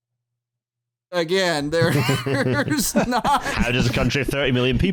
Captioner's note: laughter